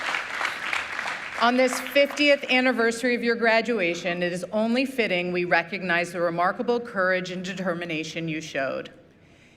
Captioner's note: applause